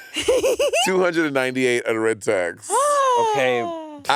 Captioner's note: Monét and Courtney laughing; gasping